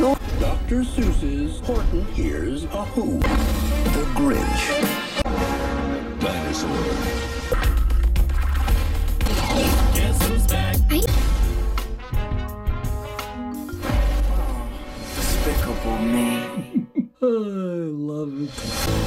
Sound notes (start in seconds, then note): 14.3 sighs; 16.5 chuckles